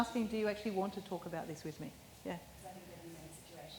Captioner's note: none